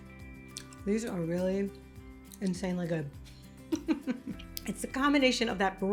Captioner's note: laughs